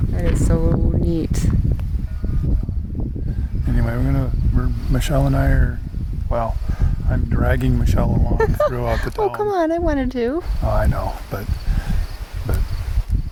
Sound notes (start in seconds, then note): 8.4 laugh